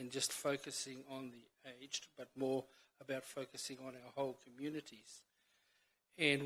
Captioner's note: none